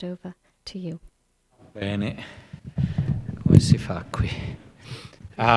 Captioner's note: speaks in Italian